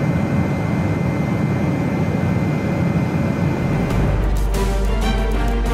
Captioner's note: aeroplane engine whirring; triumphant music